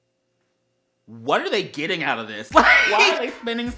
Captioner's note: le wHEEZE